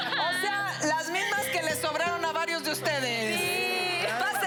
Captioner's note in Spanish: Risas